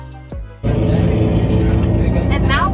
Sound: bus noises

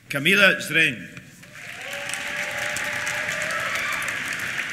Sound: applause; cheers

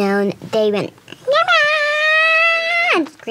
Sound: high pitched yell

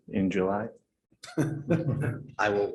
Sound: laughter

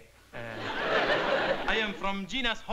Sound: laughter

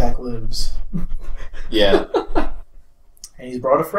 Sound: laughs

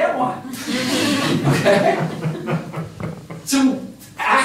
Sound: laughter

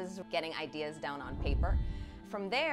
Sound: scene whooshing

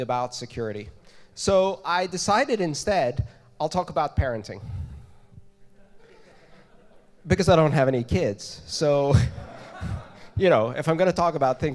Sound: laughter

